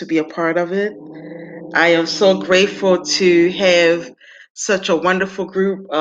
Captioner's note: dog growling